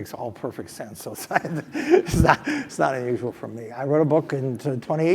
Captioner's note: laugh